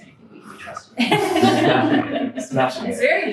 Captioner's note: all laughing